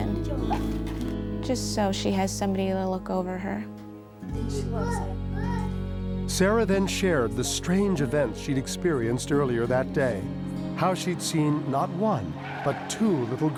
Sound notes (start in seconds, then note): 4.4 kids playing